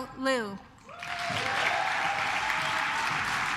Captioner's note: claps